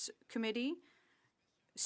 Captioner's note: speaking French